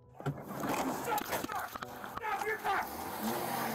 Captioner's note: police shouting